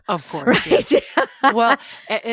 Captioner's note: laughs